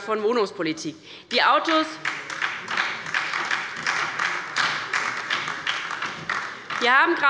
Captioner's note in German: Beifall bei der LINKEN und der SPD